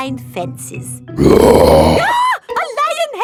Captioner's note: roars; screams